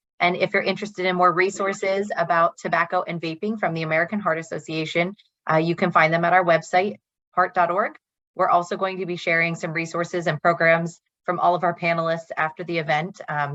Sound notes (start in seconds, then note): none